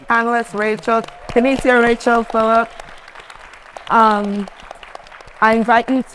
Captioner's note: attendees applauding